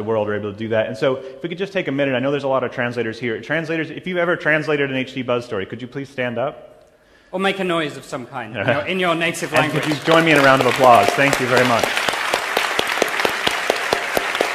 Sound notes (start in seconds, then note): 9.4 applause